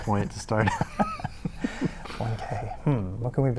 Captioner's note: everyone laughs